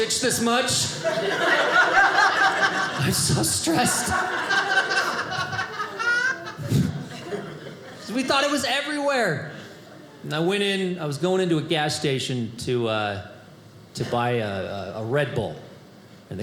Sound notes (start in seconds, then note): 4.2 audience laughing